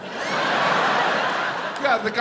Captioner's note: audience laughs